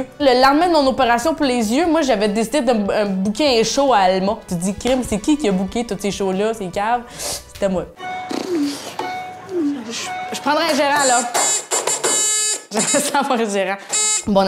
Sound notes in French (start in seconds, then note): 8.1 notifications en rafale; 11.0 vibreur sonore